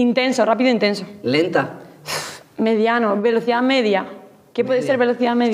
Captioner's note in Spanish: resopla